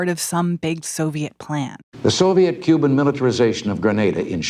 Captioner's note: soundbite of archived recording